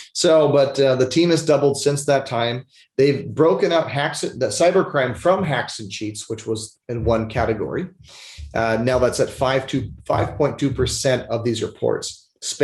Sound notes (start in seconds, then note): 8.0 sniffles